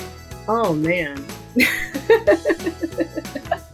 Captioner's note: upbeat music; laughs